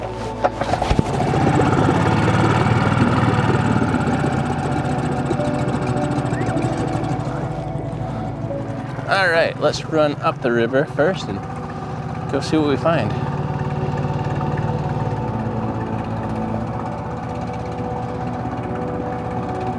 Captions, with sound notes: (motor burbling) All right, let's run up the river first and go see what we find. (gentle music)